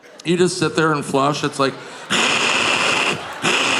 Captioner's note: imitates loud suction